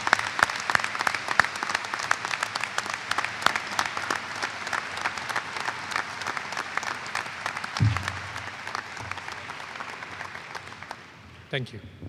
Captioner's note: applause